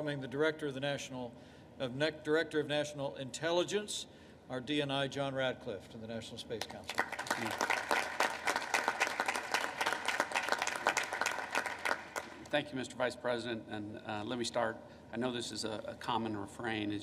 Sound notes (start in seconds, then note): 6.6 applause